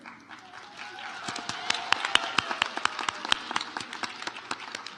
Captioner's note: audience applauds